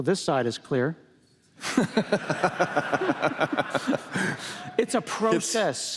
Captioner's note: laughter